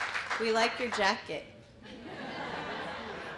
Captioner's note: laughter